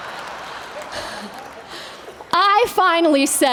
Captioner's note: laughter